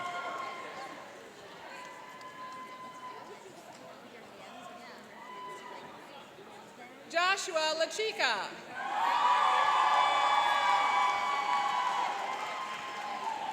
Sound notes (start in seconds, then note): 8.7 cheering and applauding